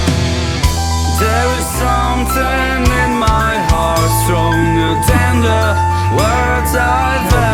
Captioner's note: happy metalhead noises